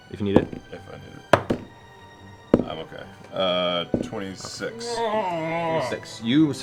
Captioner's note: mutters